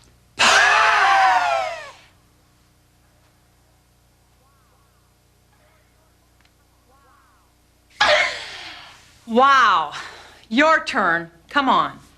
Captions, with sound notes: [screaming] [screaming] [screaming] Wow! Your turn. Come on.